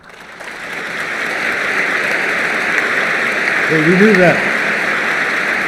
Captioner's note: applause